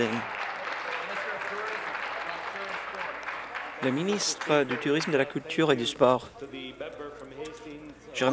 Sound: applause

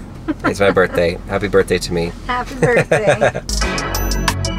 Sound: woman laughs; laughs; hip-hop music

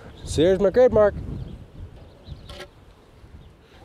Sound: wind whooshing

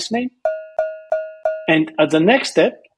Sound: cow bell dings

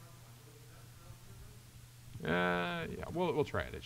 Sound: participant faintly speaking

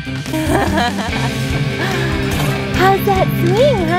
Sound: laughs

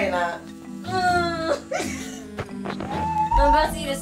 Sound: crying; laughing

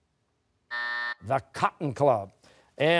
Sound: buzzer

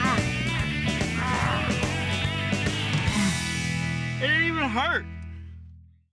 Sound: grunting

